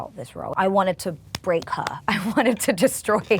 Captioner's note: hands thumping